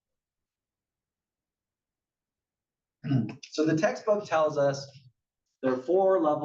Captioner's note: cough